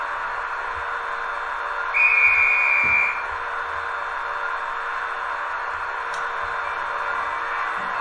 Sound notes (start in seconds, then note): 1.9 conductor whistle